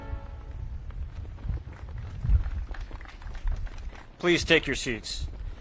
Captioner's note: audience claps